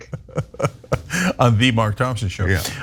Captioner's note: laugh